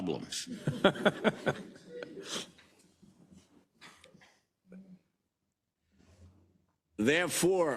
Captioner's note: laugh